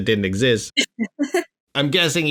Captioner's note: laughter